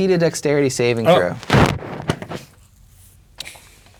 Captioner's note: microphone feedback